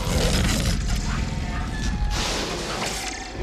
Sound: roaring

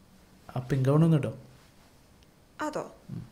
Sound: none

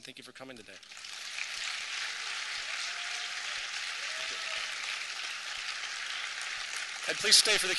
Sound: applause

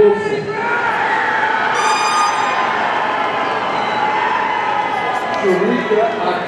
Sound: audience cheering; party blower squeaking

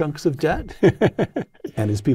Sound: laugh

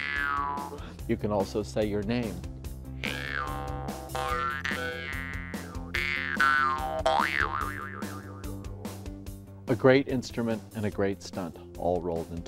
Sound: twang

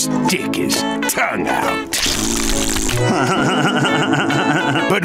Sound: doing raspberries, laughing

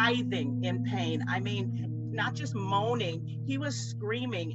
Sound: none

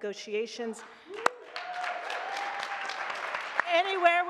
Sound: audience clapping and cheering

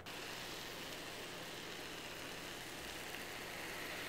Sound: baklava sizzling

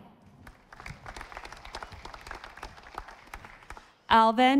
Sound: audience applauding

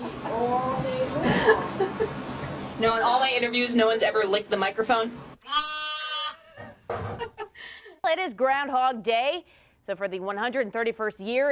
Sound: baaing; laughter

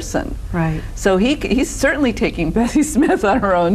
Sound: laughs

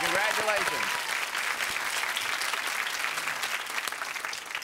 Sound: applause

